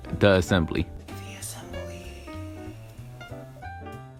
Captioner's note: whispers